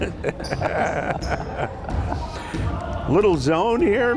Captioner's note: laughing